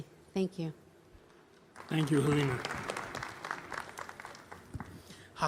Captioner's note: applause